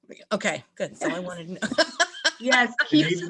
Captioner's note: laughs